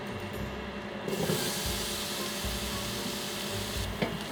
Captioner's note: sizzling